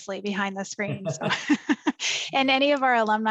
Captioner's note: laughter